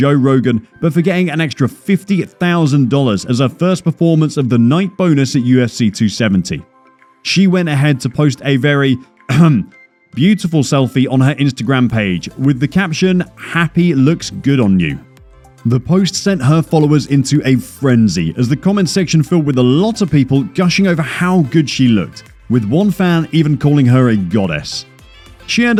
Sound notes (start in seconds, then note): 9.3 coughs